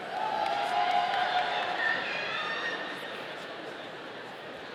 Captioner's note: audience cheering